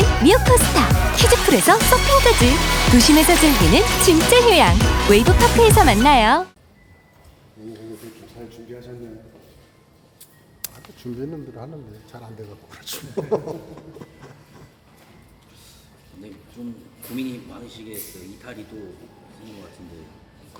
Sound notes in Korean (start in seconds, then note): 12.9 웃음